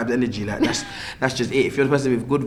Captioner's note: laughs